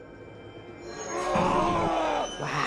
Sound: screams

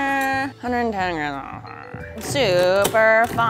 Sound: grumbling

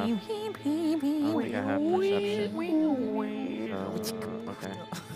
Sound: humming; humming

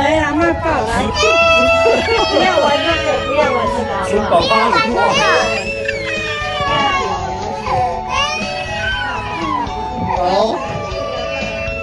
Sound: my sister burst into crying

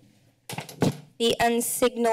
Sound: door closes

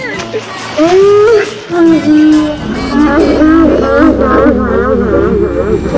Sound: yelling in slow motion

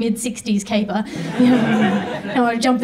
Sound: audience laughs

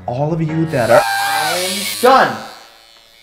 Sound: razor buzzes; shrieking

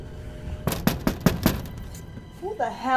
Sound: door knocking

